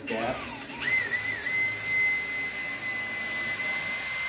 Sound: drill buzzing

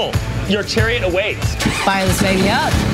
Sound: engine starts

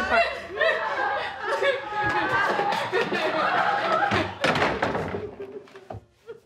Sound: crying

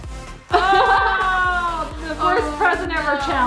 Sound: laughs

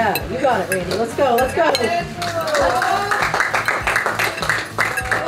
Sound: crowd clapping and cheering

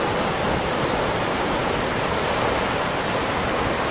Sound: waves crashing; wind rustling; waves crashing

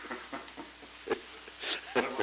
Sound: chuckle

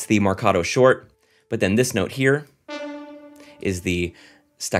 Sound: horn blares

